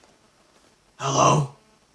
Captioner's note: deep demonic tone